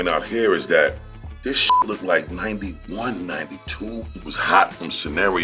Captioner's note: beep